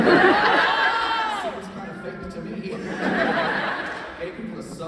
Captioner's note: laughs